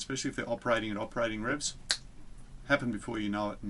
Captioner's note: snaps fingers